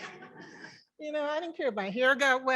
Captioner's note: members laughing